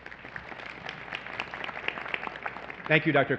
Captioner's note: applause